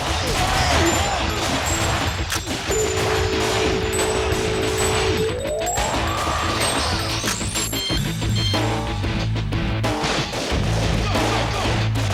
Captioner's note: game audio